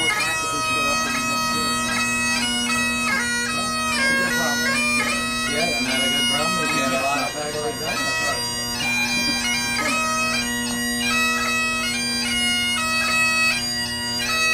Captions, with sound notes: Too much time to ever show up. (speaking faintly) (chattering and laughing) (bagpipe skirling) Yeah, man I (speaking faintly). (chattering and laughing) (bagpipe skirling)